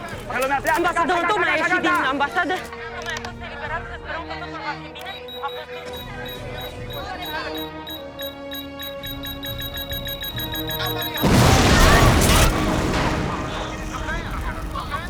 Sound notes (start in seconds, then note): 0.1 reporting in foreign language; 4.8 beeping